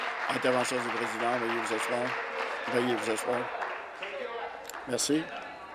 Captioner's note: applause